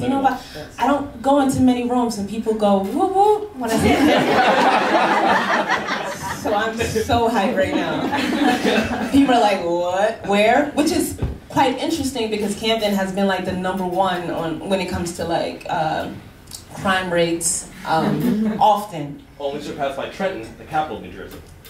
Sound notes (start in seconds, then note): 3.8 laughing